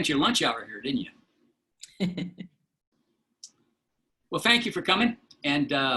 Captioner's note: laughter